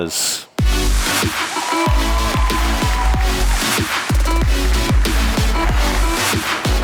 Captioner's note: upbeat music; audience cheering